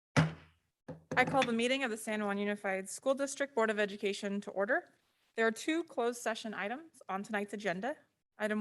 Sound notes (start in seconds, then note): 0.1 hammer banging